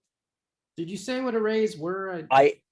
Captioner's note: tender Voice